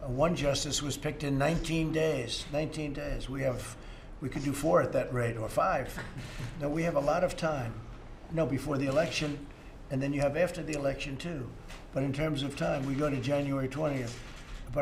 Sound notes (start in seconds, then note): 6.0 laughter